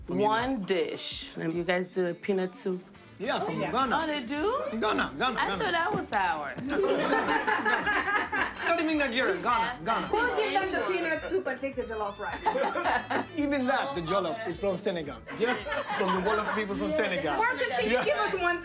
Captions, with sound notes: -One dish. You guys do the peanut soup? -Yeah, from Ghana. -Oh, they do? -Ghana, Ghana. Ghana. -I thought that was ours. [ Laughter ] -Not even Nigeria. Ghana, Ghana. -We'll give them the peanut soup, but take the jollof rice. -Even that, the jollof is from Senegal. From the Wolof people in Senegal. -Marcus, can you give us one thing?